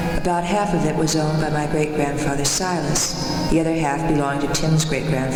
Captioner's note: none